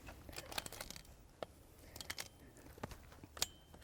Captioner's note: gun clinking